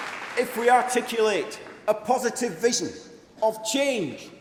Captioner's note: applause